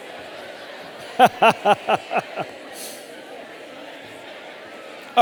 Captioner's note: audience laughing; audience chattering